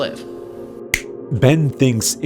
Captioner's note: snap